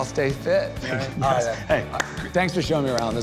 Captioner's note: chuckles